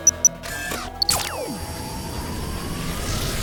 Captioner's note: whirring